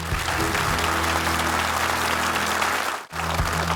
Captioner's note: audience applauding